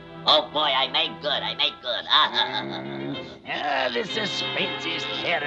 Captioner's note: laughing